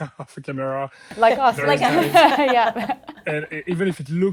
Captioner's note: laughs